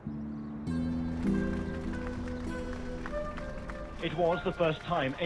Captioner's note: gentle music; crowd applauds